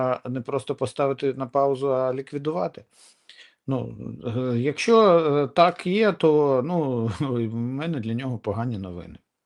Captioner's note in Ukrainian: сопіння